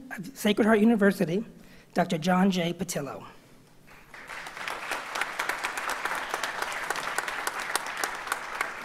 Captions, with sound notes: of Sacred Heart University Dr. John J. Petillo. (audience applauds)